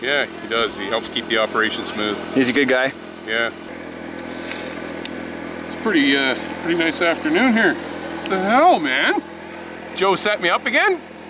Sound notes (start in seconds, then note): 4.1 opens pop can